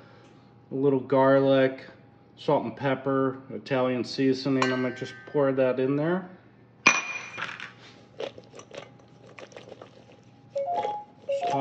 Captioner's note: oven alarm